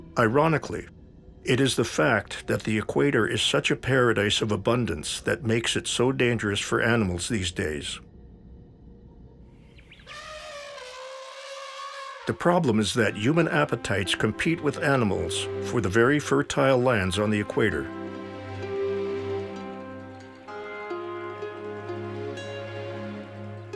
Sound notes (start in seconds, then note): 10.0 elephant trumpets; 18.5 tranquil instrumental